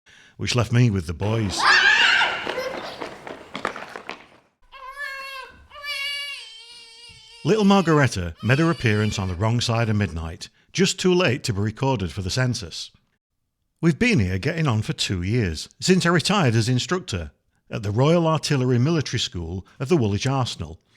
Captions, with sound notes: which left me with the boys. [children shrieking]. [Baby's wail] Little Margaretta made her appearance on the wrong side of midnight just too late to be recorded for the census. We've been here getting on for two years since I retired as instructor at the Royal Artillery Military School of the Woolwich Arsenal.